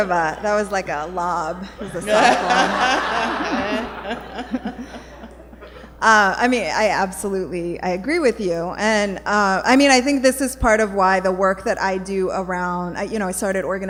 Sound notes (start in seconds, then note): 1.6 laughter